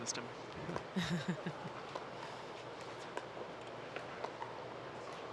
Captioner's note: laughing